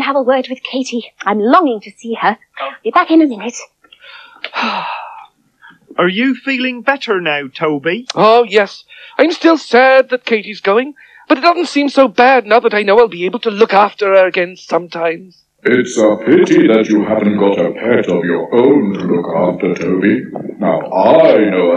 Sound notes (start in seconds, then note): 4.0 Toby Sighs With Relief